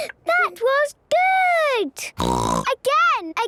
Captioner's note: snorting